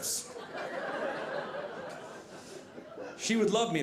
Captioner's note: audience laughing